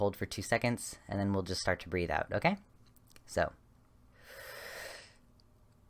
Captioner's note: sharp breath in, hold for count of 2, slowly release